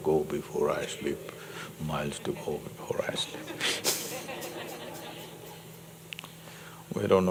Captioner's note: laughter